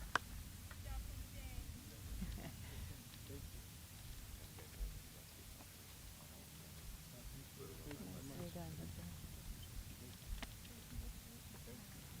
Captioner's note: applause